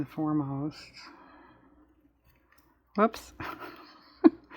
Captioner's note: laughs